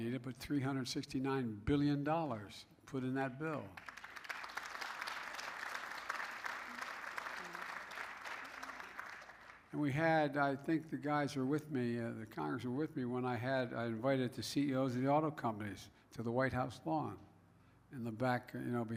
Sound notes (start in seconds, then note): 3.7 applause